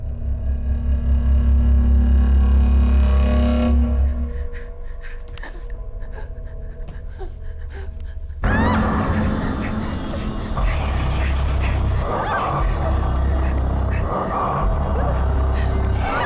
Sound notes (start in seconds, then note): 0.2 Heather gasping; 0.2 soft intense music; 8.2 sudden ominous music; 8.4 Heather shrieking; 11.1 Heather gasping fearfully; 11.1 monster rasping